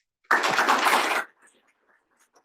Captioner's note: applause